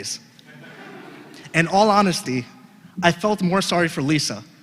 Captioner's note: laugh